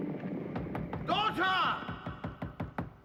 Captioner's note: knocking on door